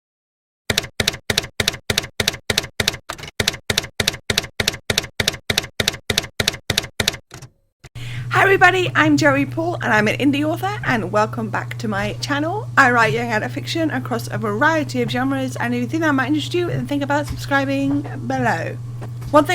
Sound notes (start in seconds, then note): 0.7 typewriter keys clacking